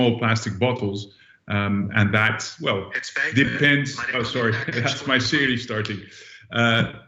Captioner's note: audio echoes